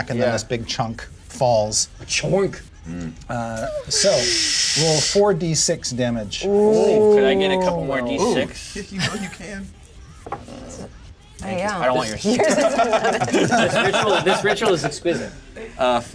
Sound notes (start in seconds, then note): 12.2 laughter